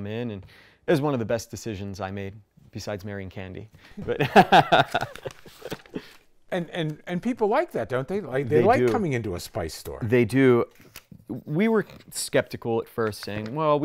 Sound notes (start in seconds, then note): 4.0 laughs